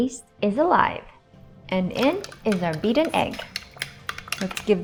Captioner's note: whisking